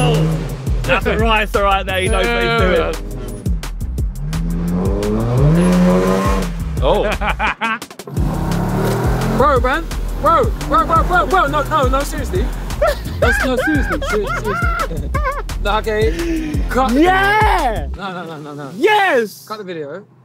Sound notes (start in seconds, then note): 3.0 car engine racing; 3.9 laughing